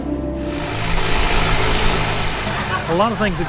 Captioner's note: boat motor running